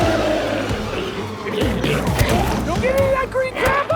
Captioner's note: glowzies growling; intense music